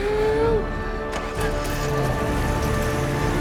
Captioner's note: engine starts; engine revs